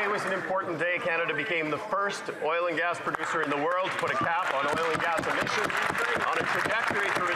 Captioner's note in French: voix de l'interprète